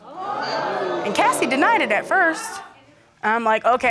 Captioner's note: audience exclaiming